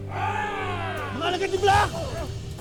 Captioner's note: guttural roar